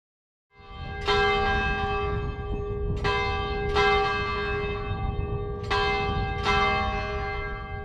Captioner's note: church bell rings